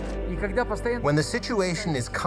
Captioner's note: speaking foreign language